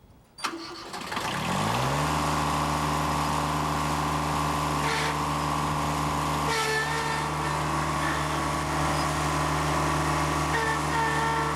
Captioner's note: engine starts